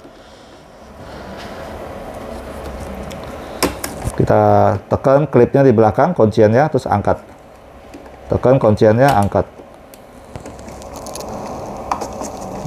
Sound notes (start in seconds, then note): 0.3 screwdriver noise; 3.4 damper clip noise; 10.2 screwdriver noise